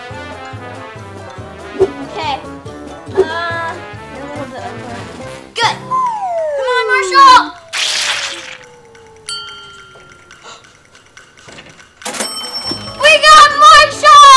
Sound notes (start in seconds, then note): 0.1 upbeat music; 5.6 swing flute; 7.6 doll sloshing; 9.3 bell chimes; 10.3 sighs; 12.0 bell rings